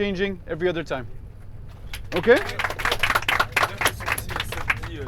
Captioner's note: applause